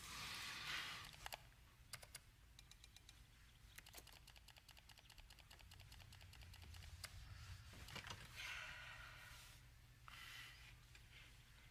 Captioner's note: clicking noises